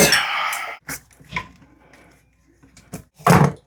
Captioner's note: loosens nut aggresively